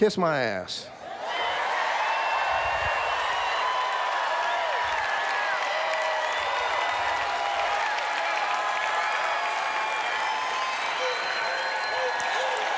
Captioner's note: cheers